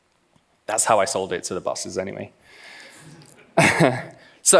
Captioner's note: laughs